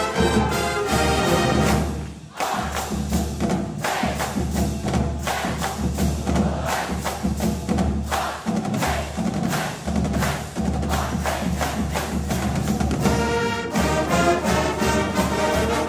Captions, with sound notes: - [Crowd] R! A! M! Rams! R-A-M, Rams! R-A-M, it's Rams! (triumphant music)